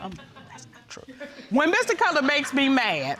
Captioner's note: audience laughing; whispering